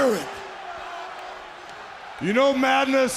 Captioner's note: crowd cheering